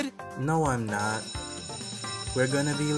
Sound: bell rings

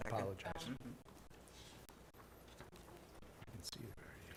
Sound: whispers

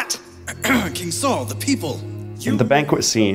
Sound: coughs

